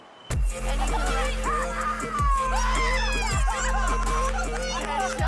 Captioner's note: screaming and laughter